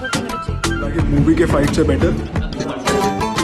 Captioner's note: crowd opine